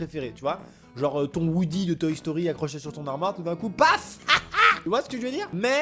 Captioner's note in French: rire